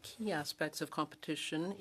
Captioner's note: speaking French